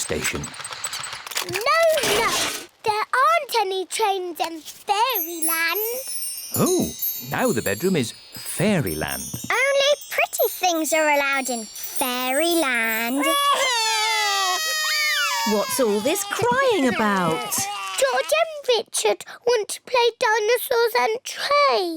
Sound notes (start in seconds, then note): 13.2 both crying loudly